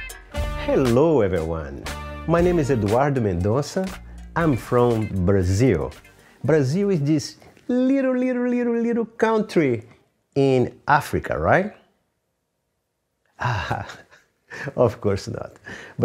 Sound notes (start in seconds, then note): 13.4 laughs